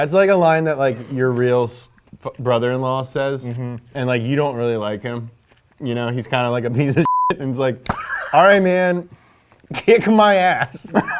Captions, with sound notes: - That's like a line that like your real brother-in-law says and like, you don't really like him, you know? He's kind of like a piece of (beep) And he's like, all right, man, kick my ass.